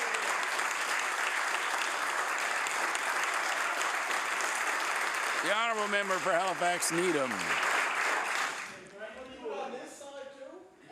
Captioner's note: some applause